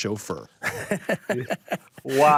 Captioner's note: laughs